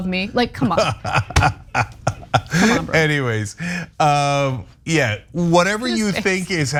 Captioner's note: laugh